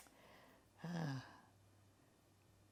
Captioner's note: sighing